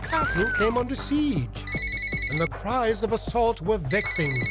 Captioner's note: phone ringing